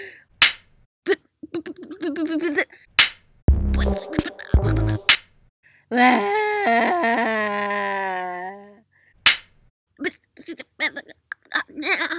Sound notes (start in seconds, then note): 3.4 dance beat; 6.0 more crying and flying through the air